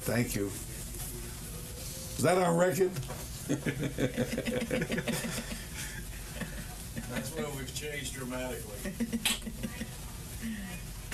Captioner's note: laughter